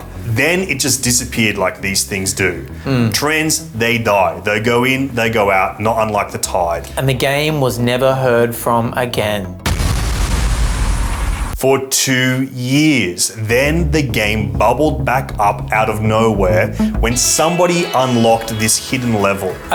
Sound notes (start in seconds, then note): 9.6 explosion booms